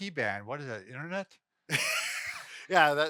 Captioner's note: laughs